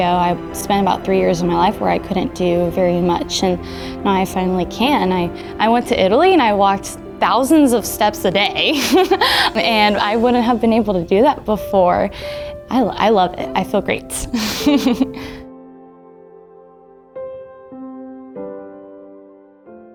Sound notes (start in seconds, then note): 14.3 laughs